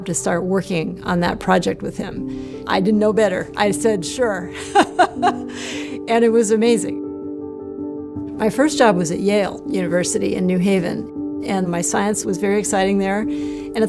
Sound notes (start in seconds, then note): 4.6 laughs; 7.2 gentle music